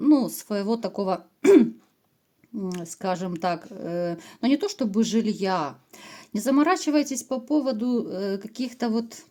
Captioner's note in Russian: откашливается